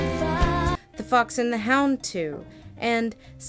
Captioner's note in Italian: voce fuoir campo